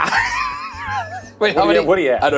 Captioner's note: laughing